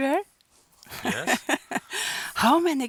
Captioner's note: laughs